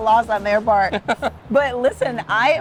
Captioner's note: chuckling